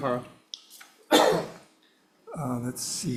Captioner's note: coughs